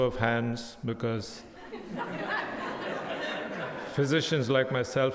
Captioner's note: audience laughing